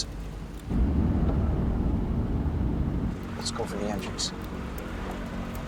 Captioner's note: vehicle droning